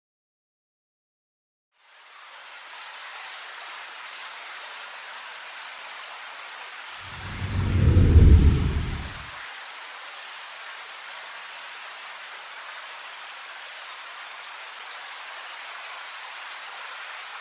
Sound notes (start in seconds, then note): 1.7 crickets chirping; 1.7 water flowing; 7.0 air whooshing; 8.7 crickets chirping; 8.7 water flowing